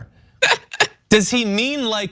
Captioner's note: laugh